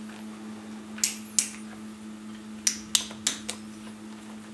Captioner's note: knocking and hitting noises